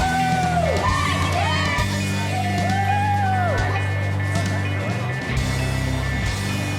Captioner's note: cheering